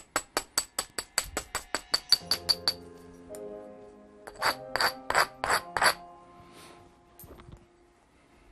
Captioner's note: knapping